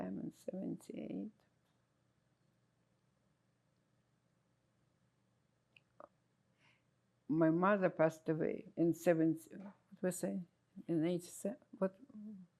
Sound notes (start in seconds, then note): 1.6 pauses 6 seconds